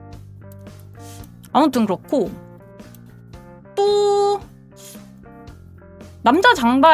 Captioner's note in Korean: 콧방귀